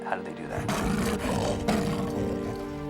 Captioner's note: roaring